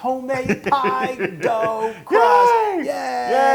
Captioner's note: laugh